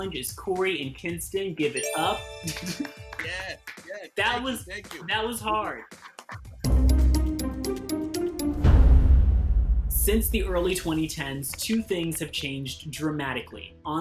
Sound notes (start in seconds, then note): 3.0 clapping; 6.6 dramatic music